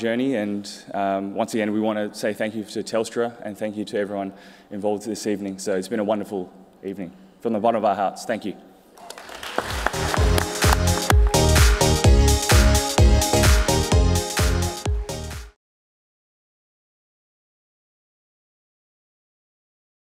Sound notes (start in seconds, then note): 9.0 applause and music